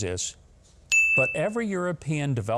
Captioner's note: bell dinging nudgingly